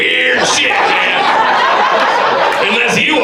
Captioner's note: audience laughs